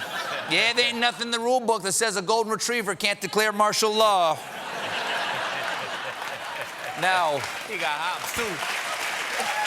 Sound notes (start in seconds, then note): 4.4 laughter; 5.7 applause